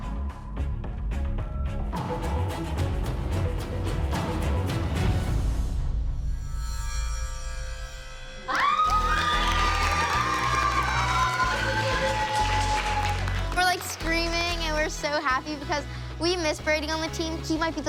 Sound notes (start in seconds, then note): 8.4 screaming and clapping